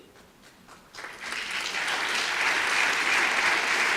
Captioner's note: audience applause